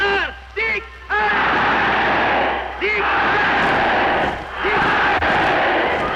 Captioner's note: crowd chanting